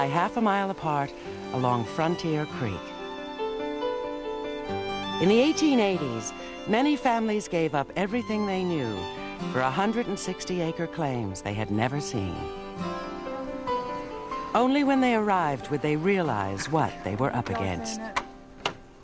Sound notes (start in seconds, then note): none